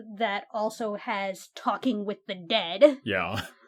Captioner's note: starts laughing